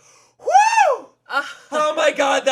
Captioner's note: cheers